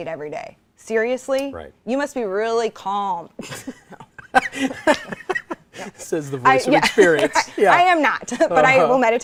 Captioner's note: laughs, "NO."